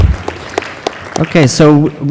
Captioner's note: applause